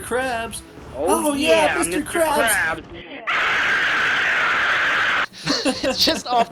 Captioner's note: scream